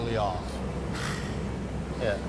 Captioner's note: exhales